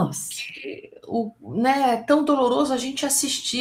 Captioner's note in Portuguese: none